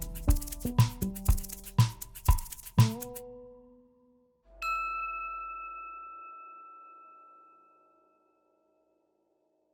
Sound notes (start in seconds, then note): 0.0 upbeat percussion music; 4.6 bell chiming